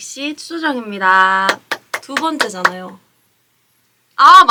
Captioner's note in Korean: 짝짝짝